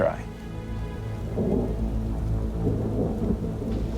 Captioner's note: thunder booming